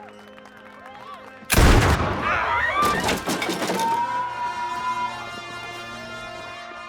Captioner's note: crowd gasping; gunfire echoing